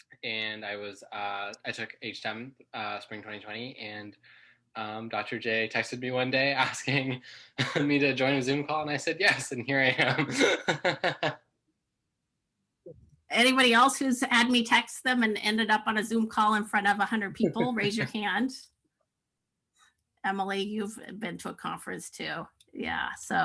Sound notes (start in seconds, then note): 9.9 laughing